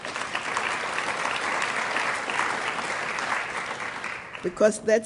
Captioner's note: applause